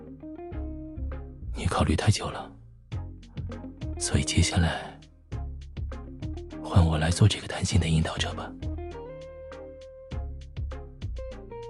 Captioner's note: whispers